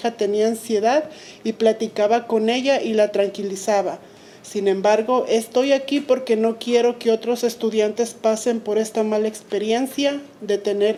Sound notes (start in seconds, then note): 1.9 speaking Spanish